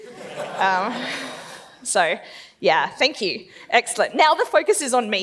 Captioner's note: laughs